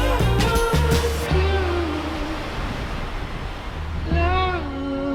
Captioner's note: waves crashing